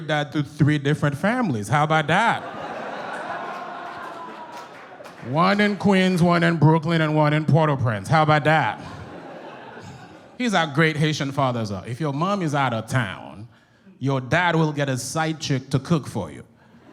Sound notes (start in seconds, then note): 2.1 audience laughs; 8.7 audience chuckles